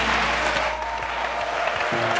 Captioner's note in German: Applaus